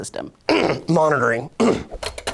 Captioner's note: coughs